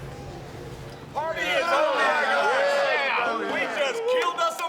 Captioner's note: group chattering